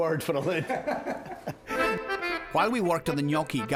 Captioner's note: both laughing